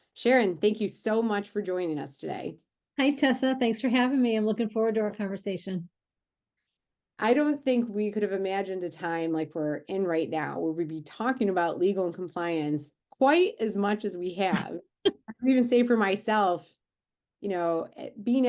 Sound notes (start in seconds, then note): 14.9 laughs